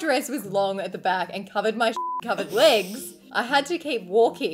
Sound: beep

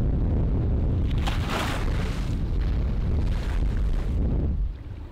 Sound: waves crashing

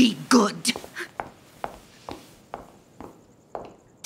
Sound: footsteps departing

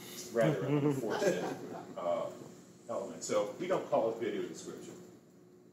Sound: laughter

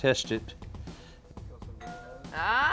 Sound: doorbell ringing

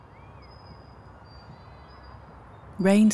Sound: wind blowing

